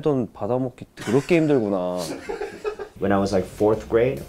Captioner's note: laughing